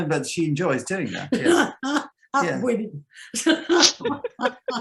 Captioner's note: laughs; laughs